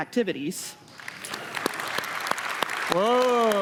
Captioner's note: applause